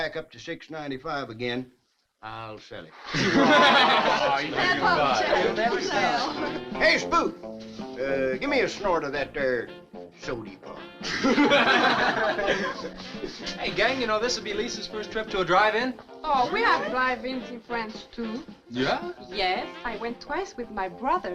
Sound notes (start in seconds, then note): 3.0 all chuckling; 4.0 teens chattering; 11.0 all chuckling